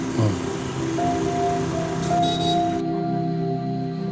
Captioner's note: Yaakob Sighs